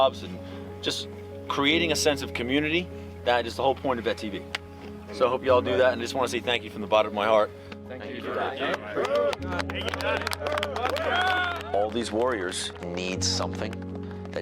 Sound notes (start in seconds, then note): 8.0 crowd; 8.1 crowd cheers and claps